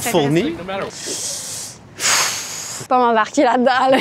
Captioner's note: deep breath